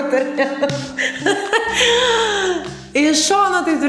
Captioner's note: laughing